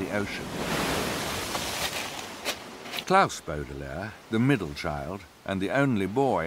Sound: ocean waves

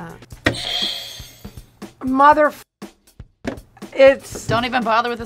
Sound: bell rings

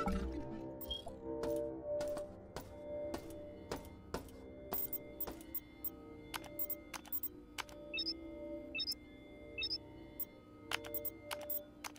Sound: footsteps

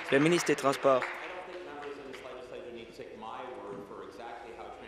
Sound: applause

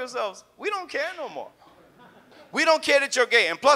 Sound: audience laughs

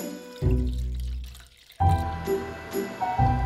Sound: water pouring

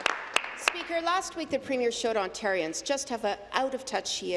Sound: applause

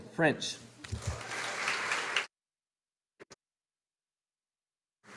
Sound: audience applauding

